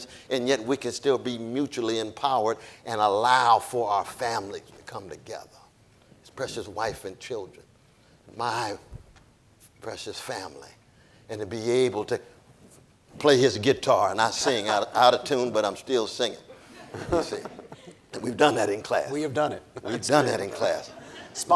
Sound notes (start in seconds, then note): 16.6 audience laughing